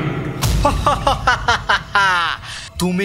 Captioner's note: Evil laugh – Sadek